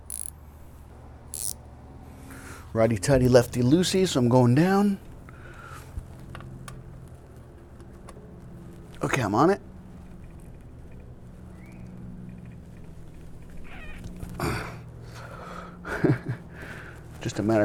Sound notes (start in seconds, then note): 12.1 grunting; 15.8 laughter